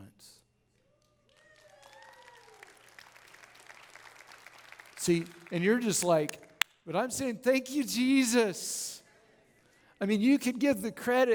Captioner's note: audience Claps And Cheers; claps